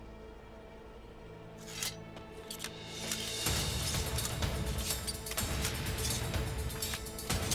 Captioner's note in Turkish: Kılıç sesleri